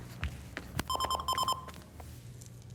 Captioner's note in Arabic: رنين الهاتف